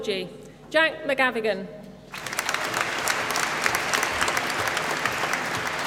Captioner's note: applause